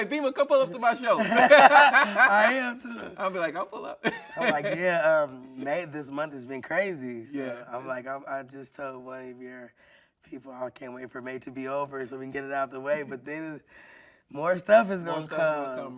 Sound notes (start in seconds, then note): 1.1 everyone laughing